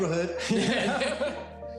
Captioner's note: both laugh